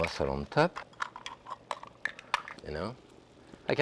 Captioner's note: mussel shells clinking